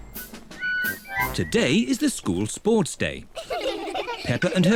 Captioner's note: kids giggle